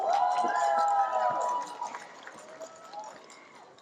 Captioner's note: cheering, applause